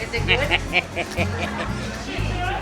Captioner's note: man laughing